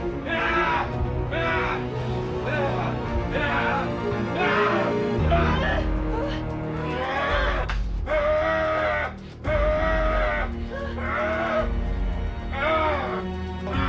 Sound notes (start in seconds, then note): 0.2 both moaning; 0.2 Larry screaming; 3.1 dramatic music; 7.1 Larry growling; 10.7 dramatic music